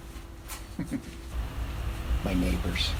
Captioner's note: chuckles